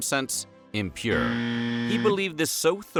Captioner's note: buzzer sound